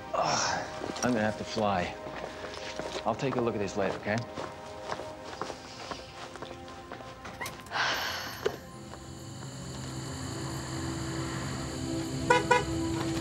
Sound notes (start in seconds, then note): 5.1 deep sigh; 11.3 beeping horn